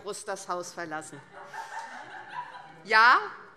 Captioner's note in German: Heiterkeit SPD